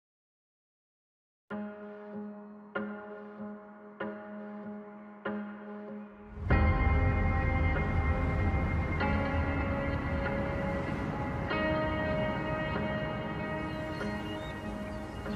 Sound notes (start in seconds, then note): 1.0 soft music playing; 12.2 birds chirping